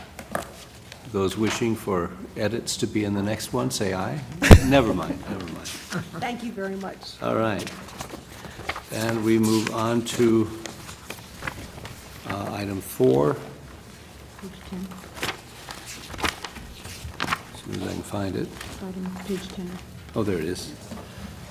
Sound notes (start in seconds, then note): 5.7 laugh